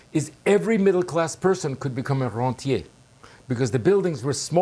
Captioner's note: speaking french